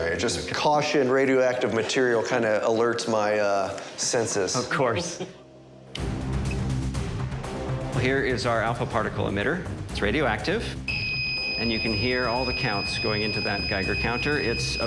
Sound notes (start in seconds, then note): 4.5 chuckles; 6.1 beeps; 10.9 tone plays